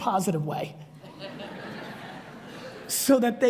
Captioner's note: audience laughs